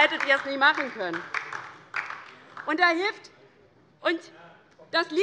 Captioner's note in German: Heiterkeit - Beifall DIE LINKE